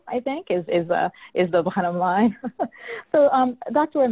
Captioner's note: chuckles